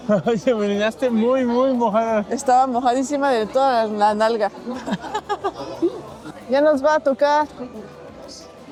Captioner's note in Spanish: risas